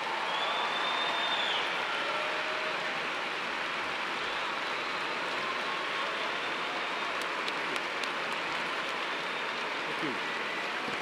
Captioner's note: cheers and applause